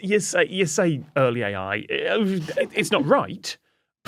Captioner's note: grumbles